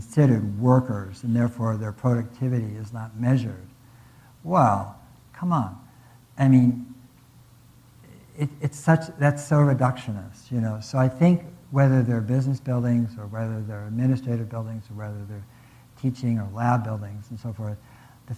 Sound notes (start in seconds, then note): none